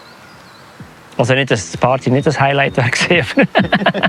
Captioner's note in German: lacht